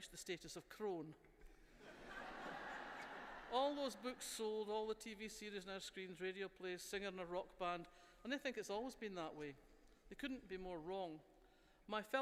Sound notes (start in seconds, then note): 1.7 laughter